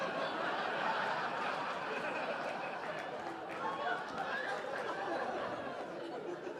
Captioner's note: audience laughing